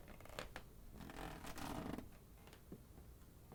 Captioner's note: floor creaks